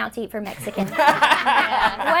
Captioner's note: all laugh